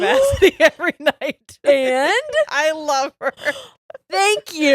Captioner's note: laughs; gasps